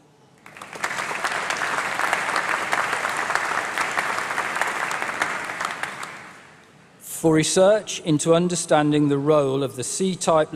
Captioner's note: applause